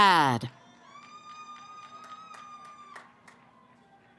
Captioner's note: cheering